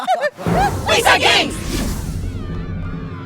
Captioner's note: excited chatter